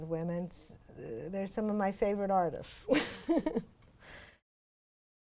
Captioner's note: laughs